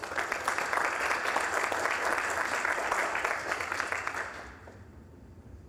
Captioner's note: applause